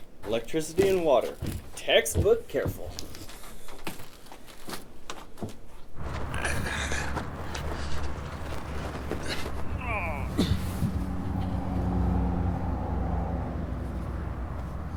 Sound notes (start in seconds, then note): 6.0 heavy breathing; 10.6 grunting